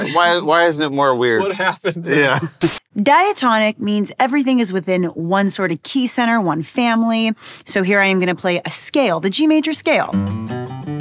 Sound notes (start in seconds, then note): 1.4 chuckles